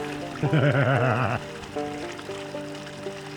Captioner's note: laughs